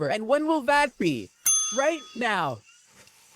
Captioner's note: ding